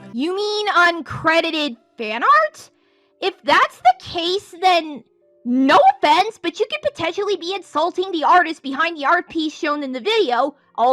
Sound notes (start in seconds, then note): none